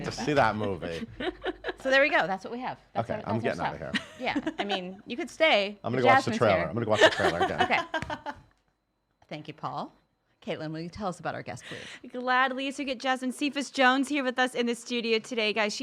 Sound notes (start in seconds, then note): 0.0 chuckling; 8.2 guffawing